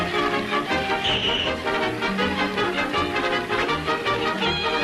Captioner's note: kiss smooches